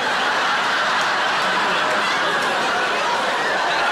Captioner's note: audience laughing